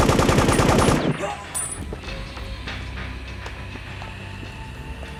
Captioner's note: machine gun firing; guard groans